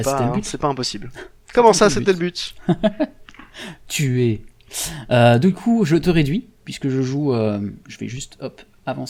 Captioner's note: laugh